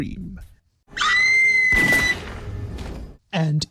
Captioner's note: scream + gunshot